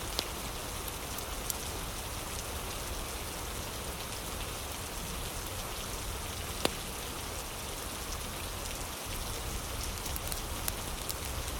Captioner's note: fire crackling